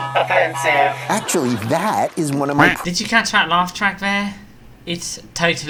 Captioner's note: quack